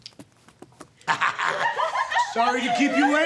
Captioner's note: girls giggling